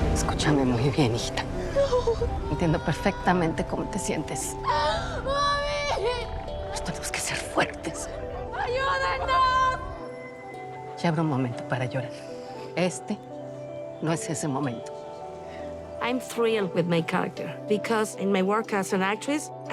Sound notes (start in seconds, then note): 0.1 in Spanish; 4.6 sobbing; 6.6 in Spanish